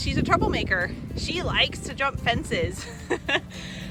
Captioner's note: laugh